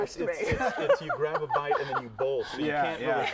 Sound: laughter

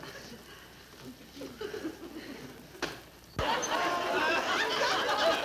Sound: audience laughing; laughs

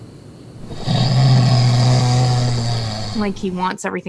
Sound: snoring loudly

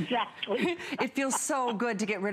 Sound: laughter

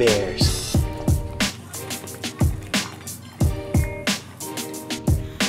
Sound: dogs chomping

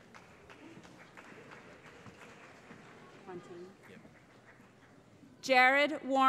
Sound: applause

